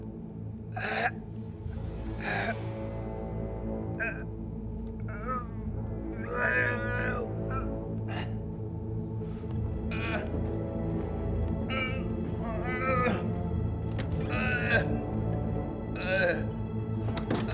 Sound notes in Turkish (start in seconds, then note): 5.8 İnleme sesleri; 17.0 Kapı kapanma sesi